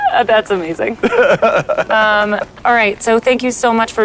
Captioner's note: laughs